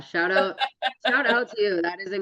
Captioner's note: laughs